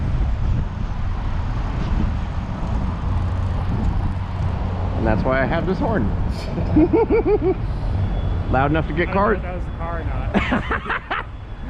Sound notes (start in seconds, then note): 6.3 both of us laugh